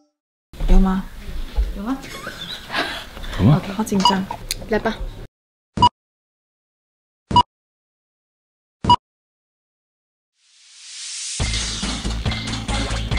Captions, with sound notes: Is there? Have? *giggles* I'm so nervous! Ok let's go